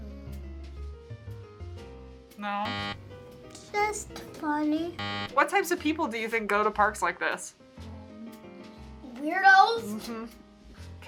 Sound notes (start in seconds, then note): 2.6 buzzer; 5.0 buzzer